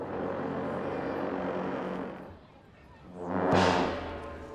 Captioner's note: horns blowing